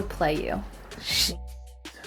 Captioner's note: swears under his breath